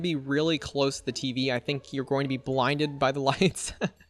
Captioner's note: laughs